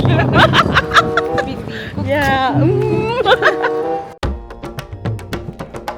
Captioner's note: laugh